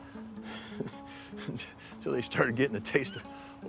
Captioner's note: chuckles